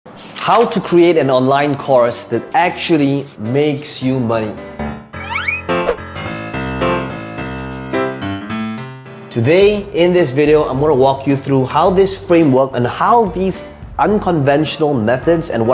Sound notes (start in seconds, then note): 0.2 page turning; 1.3 marker scratching; 4.6 whimsical music; 6.6 air whooshing; 7.1 marker scratching